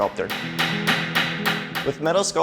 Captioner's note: metal pounding